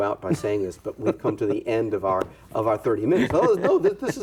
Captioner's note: laughs